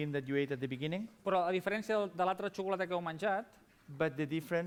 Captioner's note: non-english speech